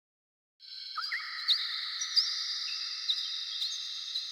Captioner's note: ambient bird and forest sounds